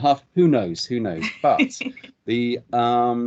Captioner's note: laughs